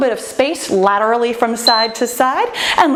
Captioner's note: timer beeps